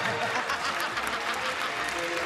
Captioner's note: laughing